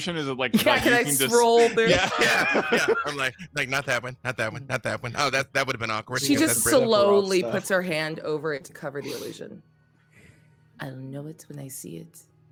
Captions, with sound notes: - Yeah, you like, scroll there. (people laughing) - Like, not that one. Not that one. Not that one. Oh, that would have been awkward. - She just slowly puts her hand over it to cover the illusion. I know it when I see it.